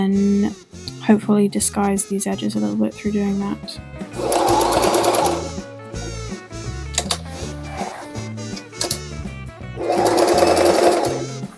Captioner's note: sewing machine noises